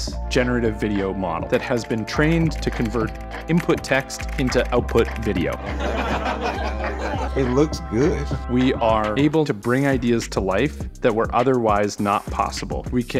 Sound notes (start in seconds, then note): 5.6 all laughing